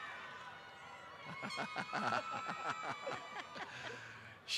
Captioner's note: laughter